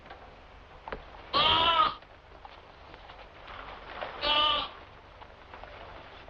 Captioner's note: bleating